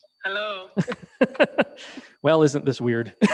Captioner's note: laughs